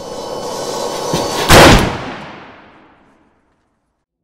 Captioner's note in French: coup de feu